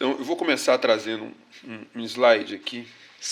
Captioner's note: speaking portuguese